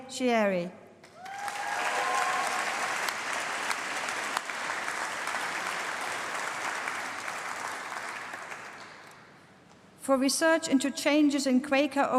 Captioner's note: applause